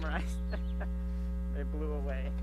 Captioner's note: chuckles